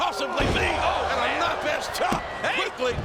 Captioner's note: body thuds